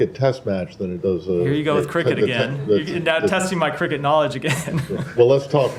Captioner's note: laughter